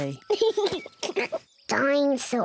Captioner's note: giggles excitedly